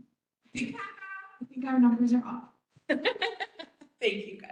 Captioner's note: laughs